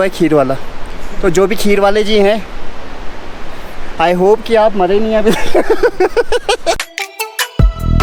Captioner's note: laughs